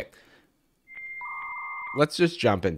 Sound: modem noises

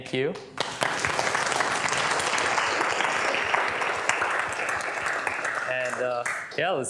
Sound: applause

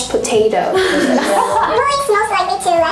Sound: laughing

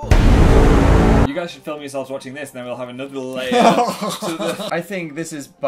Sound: laughing

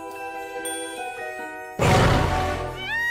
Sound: gentle music; roars; cries

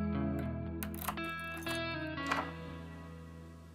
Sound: unlocking door

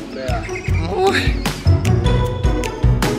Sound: annoyed sound

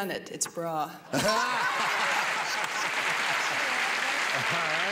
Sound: laughter and applause

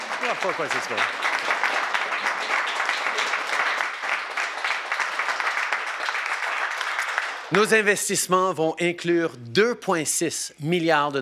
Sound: applause

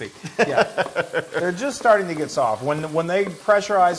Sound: laugh

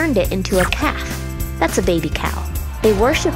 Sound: crowd cheering

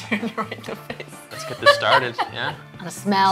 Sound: laughing

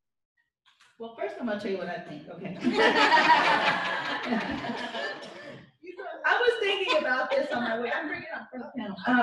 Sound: laughter

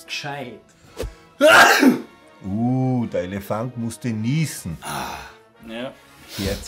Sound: sneezes

